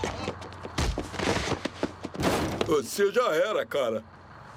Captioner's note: groaning